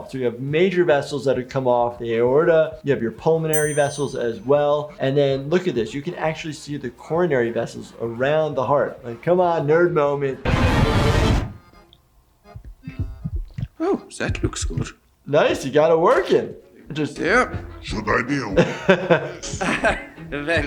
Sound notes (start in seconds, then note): 11.0 voltage meter whooshes; 12.2 instrumental music; 12.6 heart beating; 18.5 laughing